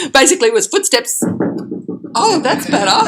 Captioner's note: footsteps on wooden surface